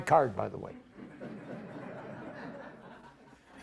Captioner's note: audience laughs